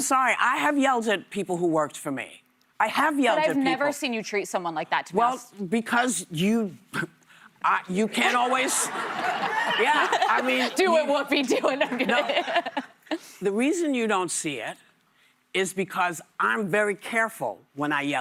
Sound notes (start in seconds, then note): 11.5 laughter